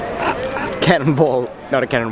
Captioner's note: laughs